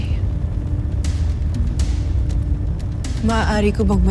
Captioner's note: fire crackling